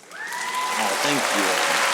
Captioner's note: audience applauding